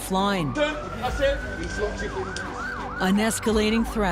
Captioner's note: sirens wailing; indistinct chatter